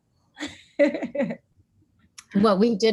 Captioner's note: laughs